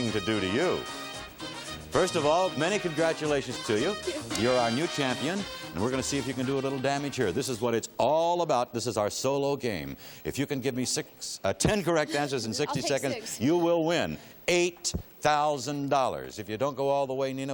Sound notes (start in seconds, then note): none